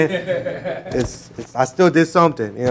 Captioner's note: laughing